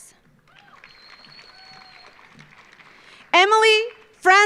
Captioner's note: audience applauding